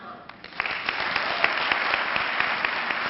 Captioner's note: clapping